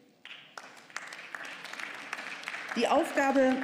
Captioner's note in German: Beifall